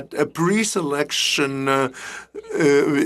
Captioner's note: speaking French